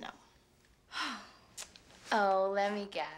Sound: sighs

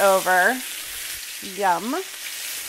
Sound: sizzling

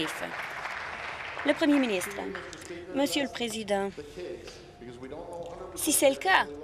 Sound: applause

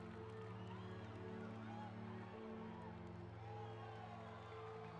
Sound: audience cheering; sad orchestral music

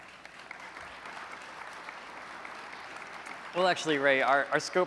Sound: applause

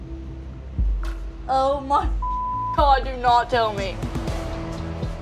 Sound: beep

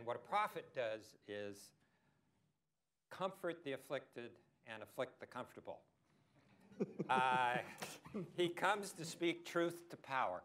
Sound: laughter

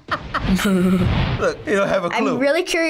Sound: laughs; chuckles

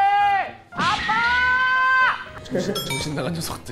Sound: suddenly shouts

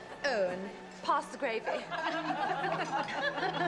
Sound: laughter

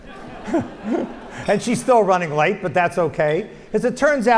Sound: laugh

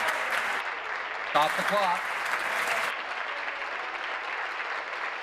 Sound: applause

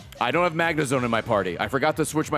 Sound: none

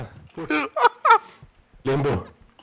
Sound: laughing

